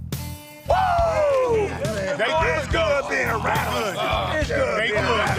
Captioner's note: men whooping and talking